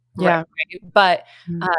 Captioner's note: speaking faintly